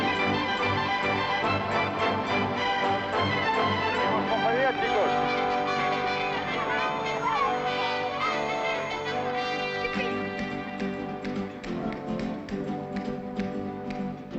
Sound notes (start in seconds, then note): 4.1 speaking in Spanish; 6.8 children chattering